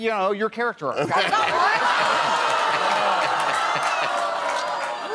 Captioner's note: crowd boos